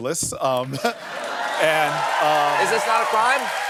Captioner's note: cheers and applause